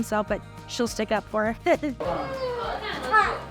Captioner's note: laughing